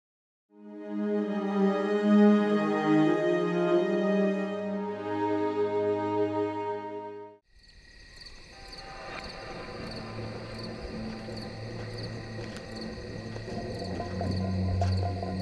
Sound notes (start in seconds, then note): 0.6 pleasant music; 7.4 crickets chirping; 10.8 suspenseful music